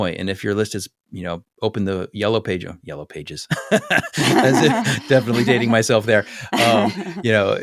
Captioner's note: laugh